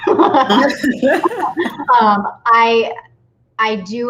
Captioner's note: both laughs